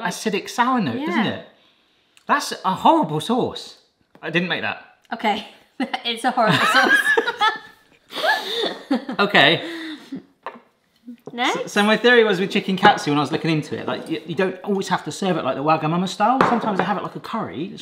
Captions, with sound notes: acidic sour note, isn't it? - Yeah. - That's a horrible sauce. I didn't make that. - Okay. It's a horrible sauce. (both laughing) - Okay. - Next? - So, my theory was with chicken katsu, when I was looking into it, like, you don't always have to serve it like the Wagamama-style. Sometimes I have it like a curry.